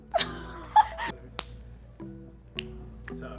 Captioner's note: laughing